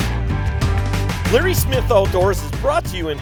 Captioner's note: voiceover